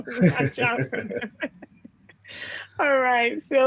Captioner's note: laughing; laughs